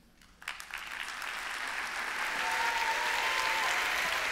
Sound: applause

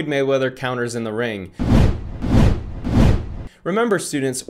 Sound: dramatic punching sounds

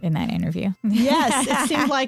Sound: laughter

